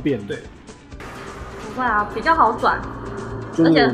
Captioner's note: the bell